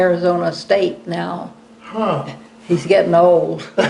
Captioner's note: laughter